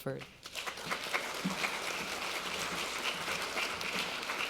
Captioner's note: applauding